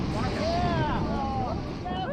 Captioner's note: explosion